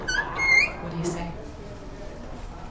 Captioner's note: door creaking